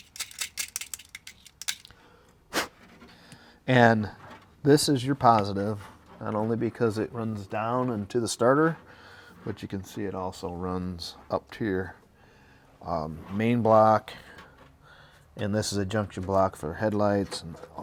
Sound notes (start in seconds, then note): 2.7 blows